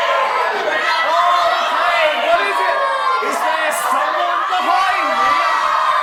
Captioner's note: audience screaming, “They’re behind you!”